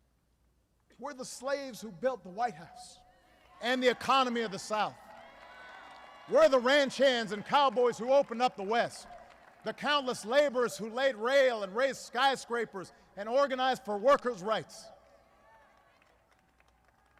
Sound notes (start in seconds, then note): 5.2 applause